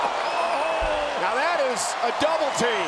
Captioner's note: crowd cheering